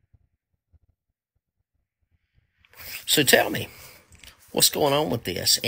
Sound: blank Audio

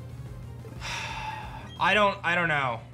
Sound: sighs

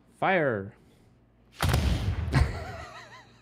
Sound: booming sound; laughter

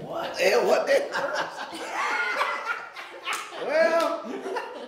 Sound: all laughing

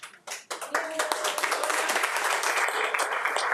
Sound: all applauding

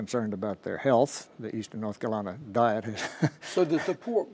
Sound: laughs

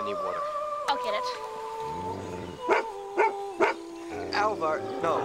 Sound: dog barking

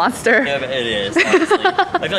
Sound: chuckles

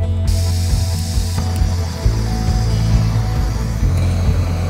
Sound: gentle music; gas hissing

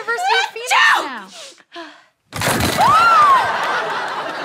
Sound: sneezes; screams

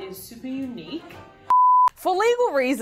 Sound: beep

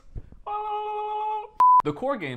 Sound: call of Cthulhu noise

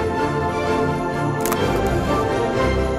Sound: camera shutter click

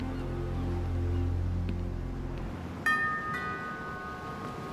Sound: rings doorbell

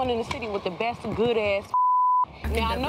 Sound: beep

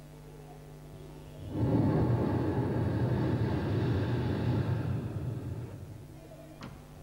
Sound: shri mataji blows into the microphone

